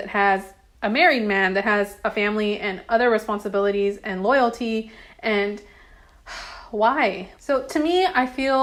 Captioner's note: sigh